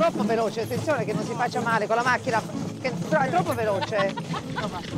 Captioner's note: speaks in Italian